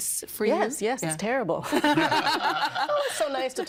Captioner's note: all laughing